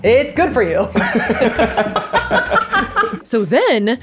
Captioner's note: both laughing